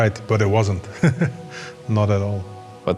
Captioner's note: laughs